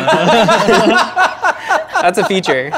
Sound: laughing

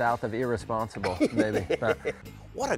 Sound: laughs

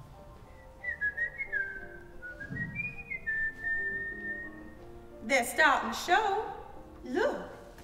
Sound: whistling

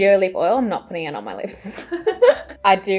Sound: both laughing

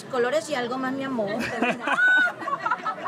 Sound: laughs

